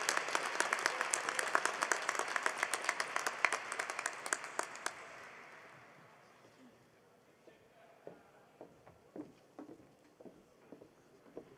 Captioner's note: applause